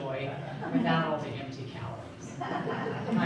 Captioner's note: audience laughing